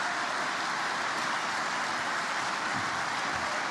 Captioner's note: applause